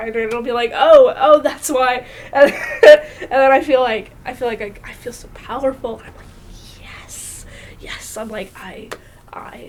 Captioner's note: laughs